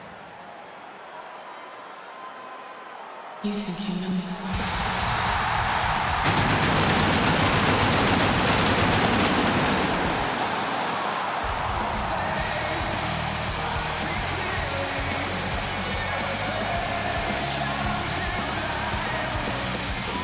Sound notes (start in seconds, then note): 4.5 rock music; 6.0 fireworks blasting